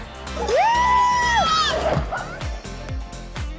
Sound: cheering

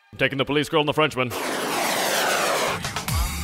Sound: jet engines

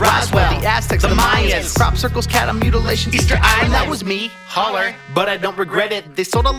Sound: holler

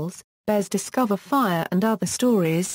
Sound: French

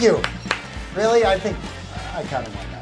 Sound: applause

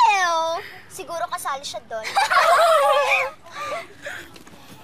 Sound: laughter

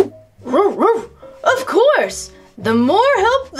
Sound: dog barking

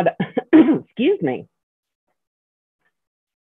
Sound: clears throat

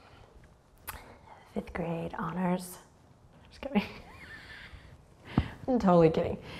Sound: chuckles

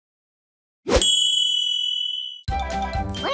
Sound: dinging sound

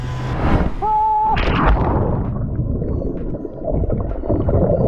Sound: screams

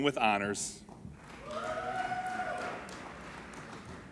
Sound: applauding

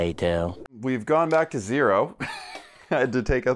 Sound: laughs

